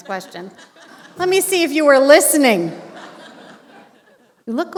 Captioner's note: laughter